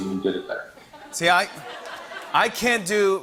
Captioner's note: laughter